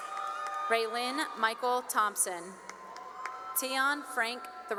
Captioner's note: cheering; cheering and applause